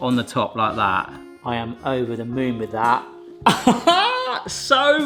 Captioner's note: laughs